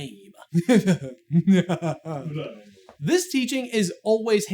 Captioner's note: mimicking smarmy laughter